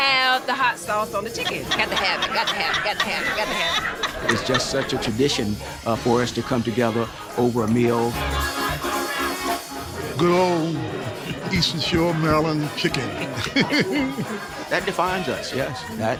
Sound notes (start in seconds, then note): 13.8 laughs